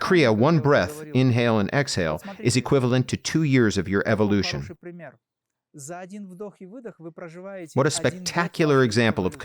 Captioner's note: inhale and exhale